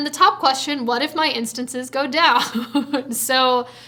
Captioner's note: laughs